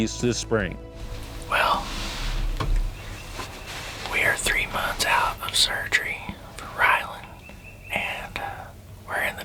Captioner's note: whispering